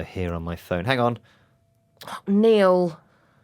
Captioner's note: pause